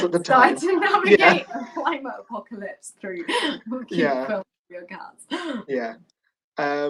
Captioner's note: mumbling